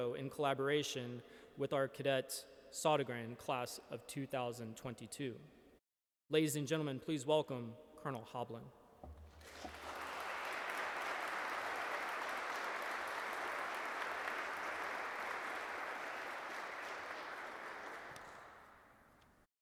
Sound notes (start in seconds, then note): 9.6 audience clapping